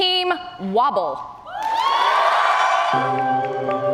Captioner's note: cheers and applause